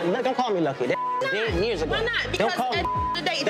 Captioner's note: beep